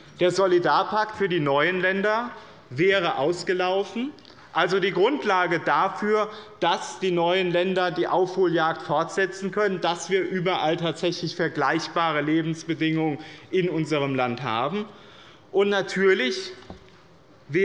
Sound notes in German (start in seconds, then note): none